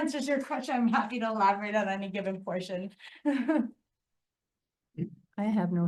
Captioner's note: chuckles